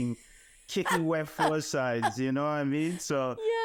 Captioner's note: laughing